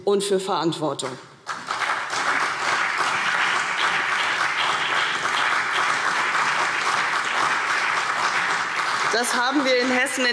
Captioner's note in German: Beifall CDU und BÜNDNIS 90/DIE GRÜNEN